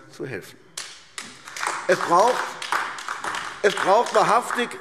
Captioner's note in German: Beifall AfD